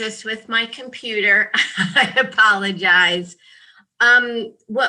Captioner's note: laughs